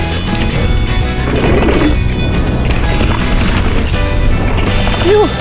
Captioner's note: clacking on wood